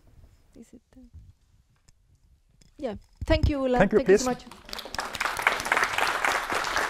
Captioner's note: applause